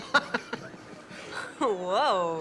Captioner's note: Leek laughing